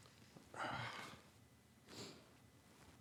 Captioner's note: sighs